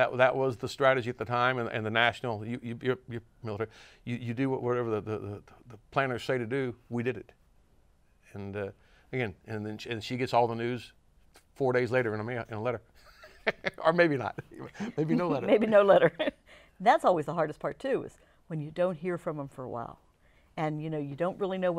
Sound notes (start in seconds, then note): 13.0 laughs